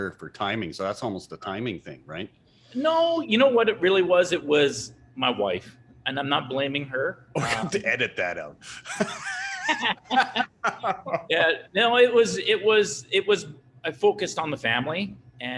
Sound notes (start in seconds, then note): 8.6 chuckle; 8.7 laughing